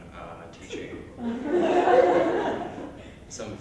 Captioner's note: laughter